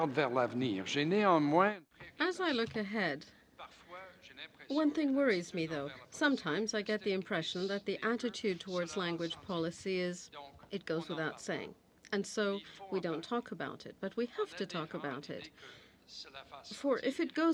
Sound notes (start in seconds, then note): 5.7 speaking french